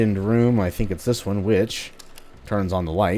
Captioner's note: switch flicks